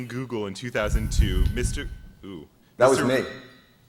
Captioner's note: microphone noise